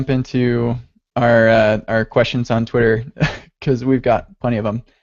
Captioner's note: laughs